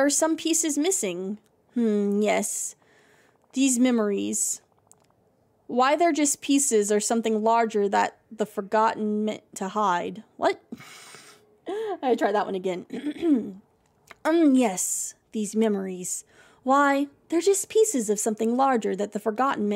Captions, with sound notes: "Why they're just pieces or something larger that the Forgotten meant to hide." What? [Snorts] I have to try that one again. [Clears Throat]